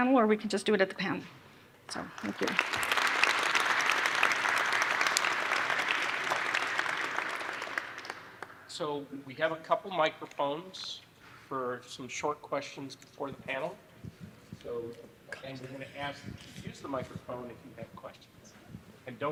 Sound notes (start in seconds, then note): 1.9 crowd clapping